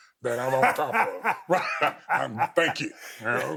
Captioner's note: Steve laughing